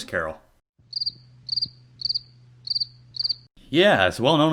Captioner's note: crickets Chirping